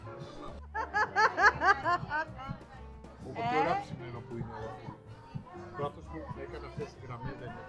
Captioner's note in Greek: γέλια